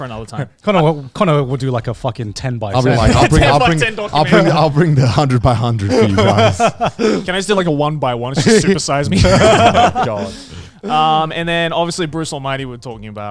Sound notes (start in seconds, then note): 8.3 everyone laughs